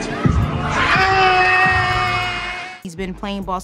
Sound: crowd cheering

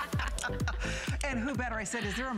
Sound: laughter

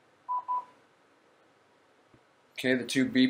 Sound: beeping

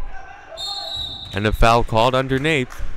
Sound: whistle blowing

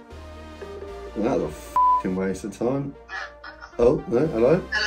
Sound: beep

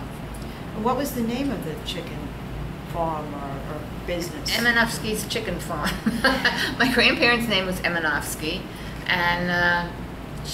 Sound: laughs

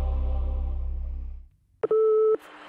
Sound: intro plays; phone line beeps

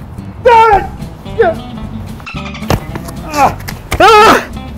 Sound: yelling

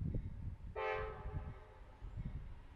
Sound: train horn

